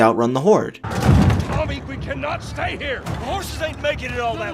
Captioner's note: Joel, through gritted teeth